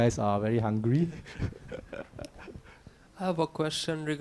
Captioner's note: laughing